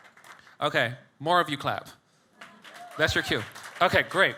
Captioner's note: audience clapping